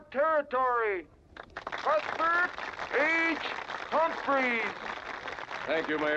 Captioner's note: crowd applauding